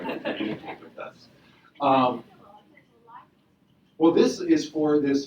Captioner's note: audience laughing